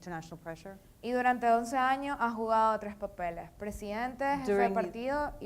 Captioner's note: speaking in foreign language